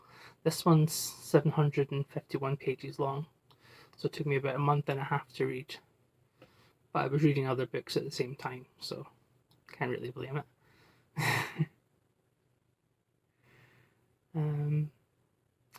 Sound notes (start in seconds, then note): 11.2 laughs